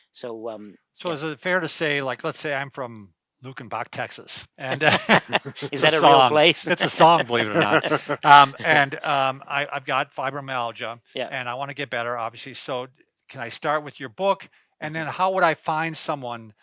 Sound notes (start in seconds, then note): 4.6 laughing